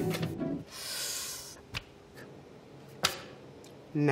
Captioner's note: inhale; paper slapping table